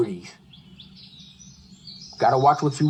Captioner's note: birds chirping